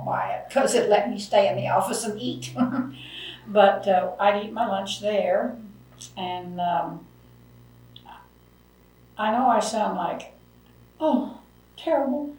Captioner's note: laughs